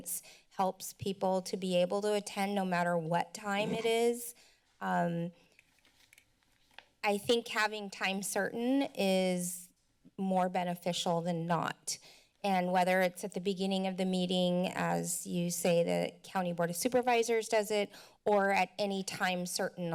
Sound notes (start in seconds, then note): 3.6 mic noise; 5.6 paper flipping